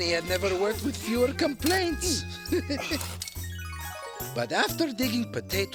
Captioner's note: chuckles